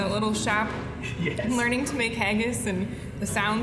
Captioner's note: laughing